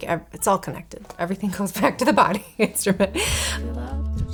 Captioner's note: chuckles